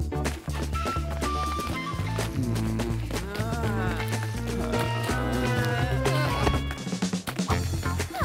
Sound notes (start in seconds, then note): 2.2 groaning